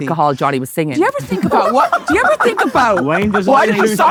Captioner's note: group laughs